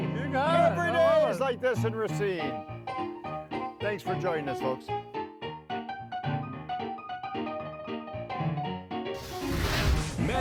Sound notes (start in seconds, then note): 3.6 upbeat music; 9.1 logo sizzles